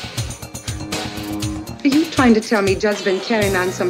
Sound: expels air

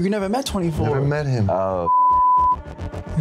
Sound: beep

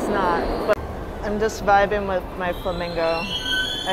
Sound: train car screeches; louder screeching

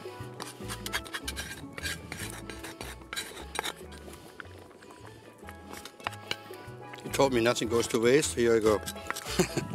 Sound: scraping

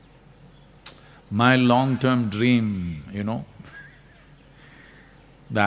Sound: laughs

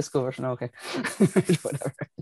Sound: laughing

